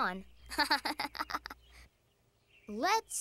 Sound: chuckles

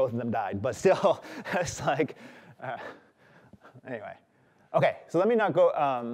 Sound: chuckles

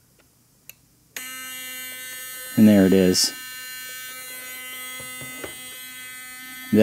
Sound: buzzer continues to sound; buzzer sounding

